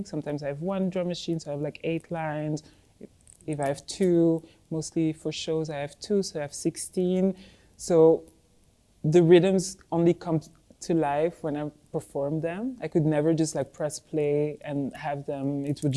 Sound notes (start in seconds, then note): none